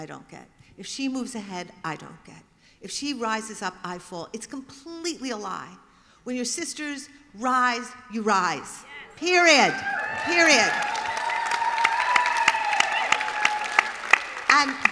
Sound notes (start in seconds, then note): 12.9 applause